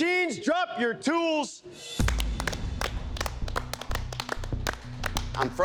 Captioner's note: applause